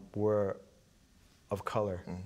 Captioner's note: none